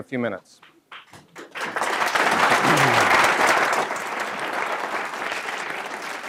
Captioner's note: applause